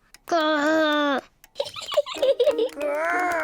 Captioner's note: laughs